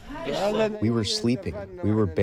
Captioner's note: through translator